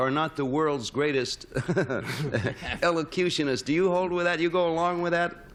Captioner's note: laughs